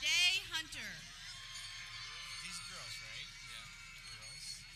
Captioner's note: people cheering